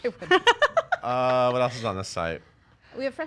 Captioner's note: all laugh